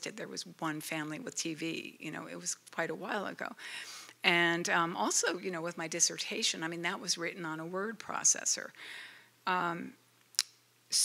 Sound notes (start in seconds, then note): none